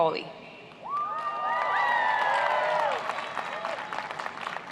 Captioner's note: applauding